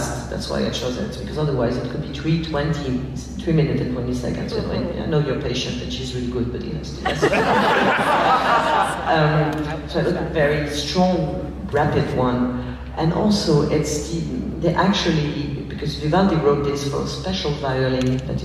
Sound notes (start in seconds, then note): 7.0 laughs